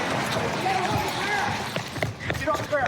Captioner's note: footsteps running